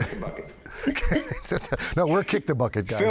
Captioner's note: panel laughing